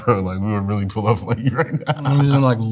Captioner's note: laughs